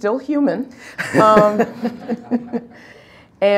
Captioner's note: laughing